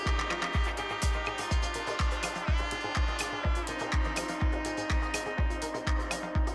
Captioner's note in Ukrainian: оплески